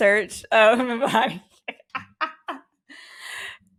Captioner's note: loughs